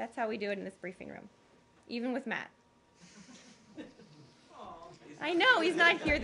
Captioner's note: laughter